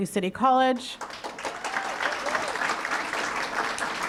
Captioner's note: applause